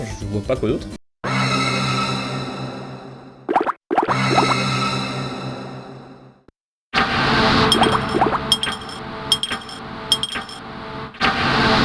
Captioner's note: horror sounds